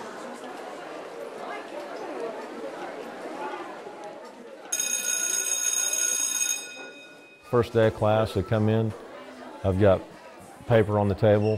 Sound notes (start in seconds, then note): 4.7 bell ringing